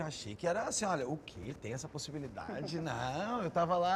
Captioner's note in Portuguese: risada